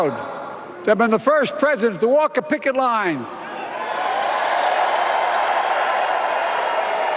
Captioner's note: applause